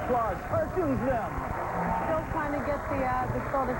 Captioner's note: applause